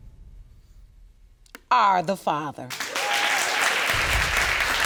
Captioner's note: audience cheering and applauding